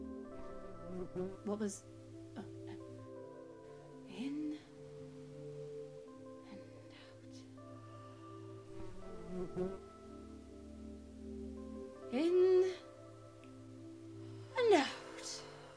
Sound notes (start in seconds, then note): 0.6 fly buzz; 8.8 A fly is BUZZZin’